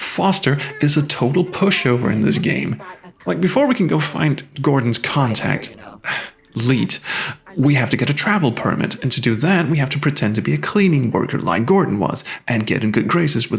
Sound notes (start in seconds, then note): 7.0 sigh